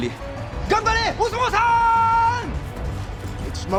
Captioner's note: speaking in foreign language